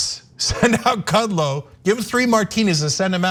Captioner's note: laugh